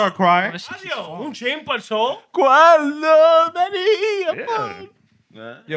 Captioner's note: non-english Speech